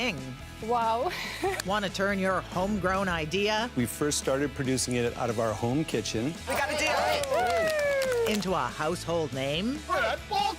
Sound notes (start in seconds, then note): 1.0 she laughs; 6.6 cheering and applause